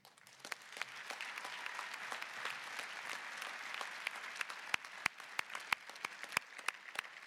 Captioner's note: applause